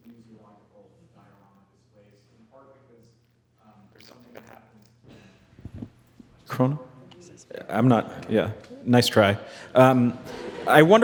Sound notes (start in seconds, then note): 6.5 speaks faintly; 9.8 attendees laughing